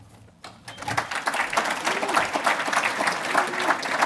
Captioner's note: applauding